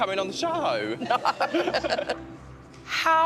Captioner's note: laughter